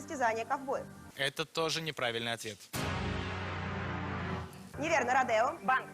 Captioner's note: incorrect answer sound